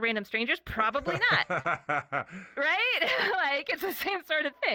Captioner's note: laughing